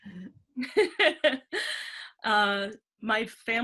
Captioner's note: laughter